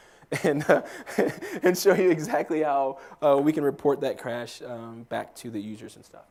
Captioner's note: laugh